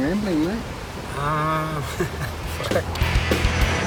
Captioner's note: laughs